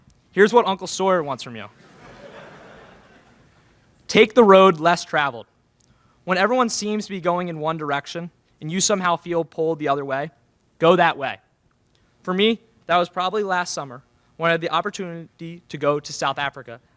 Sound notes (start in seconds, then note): 1.8 laughter in crowd